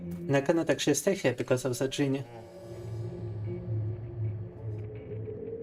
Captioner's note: speaking in foreign language